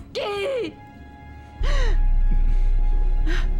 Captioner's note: sobbing